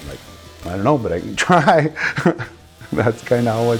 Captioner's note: laughs